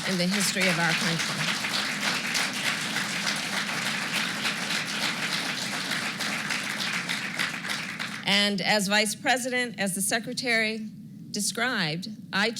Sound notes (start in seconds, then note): 2.3 applause